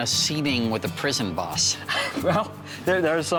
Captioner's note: chuckling